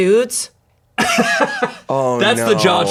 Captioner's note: laughs